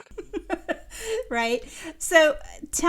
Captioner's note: chuckling